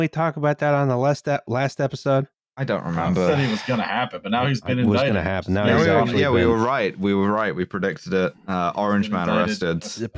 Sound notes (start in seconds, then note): 3.2 tired sigh